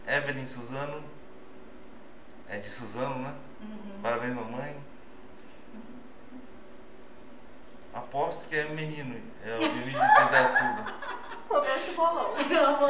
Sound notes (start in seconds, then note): 9.6 laughs